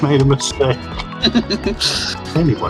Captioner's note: chaos appreciating noises